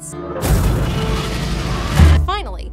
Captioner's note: dragon roars